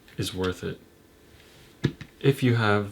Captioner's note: soft patter